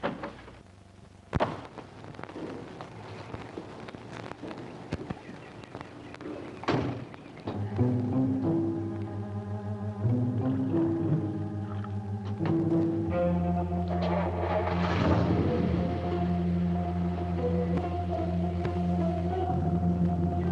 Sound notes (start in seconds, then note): 6.7 car door slams; 7.8 mysterious music; 14.4 engine revs; 17.6 dramatic music